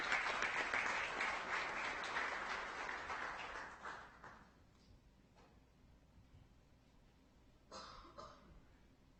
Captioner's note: audience applauding